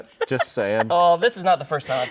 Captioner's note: laughing